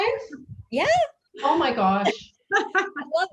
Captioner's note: laughs